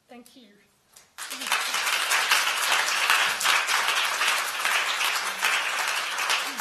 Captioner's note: applause